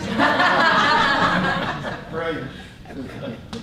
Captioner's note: laughter